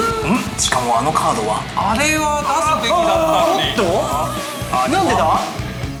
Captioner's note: gasping in shock